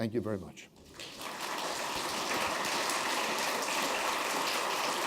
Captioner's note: applause